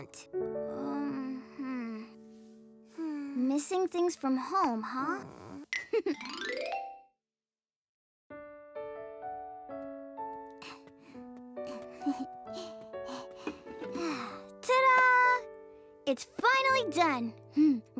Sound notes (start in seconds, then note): 5.8 chuckles; 13.8 sighs